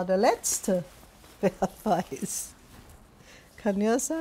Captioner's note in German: lachend